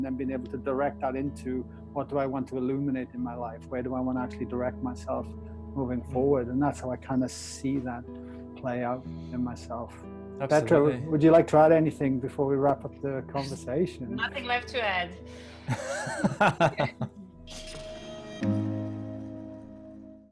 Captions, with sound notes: and then being able to direct that into what do I want to illuminate in my life? Where do I want to actually direct myself moving forward? And that's how I kind of see that play out in myself. - Absolutely. - Petra, would you like to add anything before we wrap up the conversation? - There's nothing left to add. (all laugh) (gentle music)